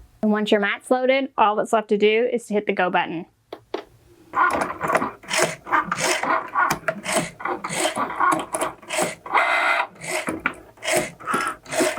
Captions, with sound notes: Once your mat floated, all that's left to do is to hit the go button. (machine clicking)